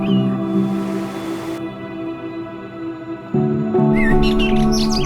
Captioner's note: water rushing; birds chirping